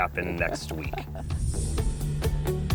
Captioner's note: chuckles